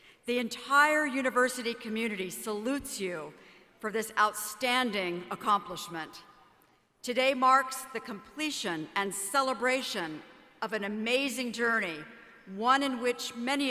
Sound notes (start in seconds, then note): none